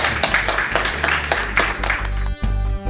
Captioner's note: applause